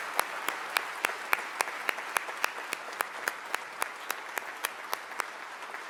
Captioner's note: applause